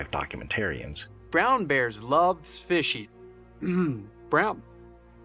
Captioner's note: clears throat